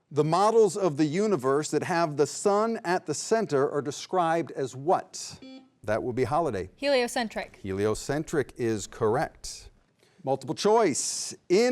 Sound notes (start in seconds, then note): 5.2 beep